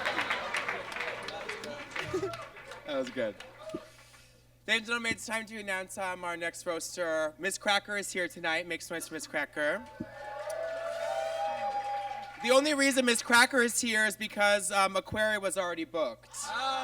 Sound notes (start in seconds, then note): 0.0 audience claps; 9.9 audience cheers; 16.6 audience groans